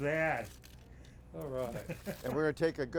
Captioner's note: laughing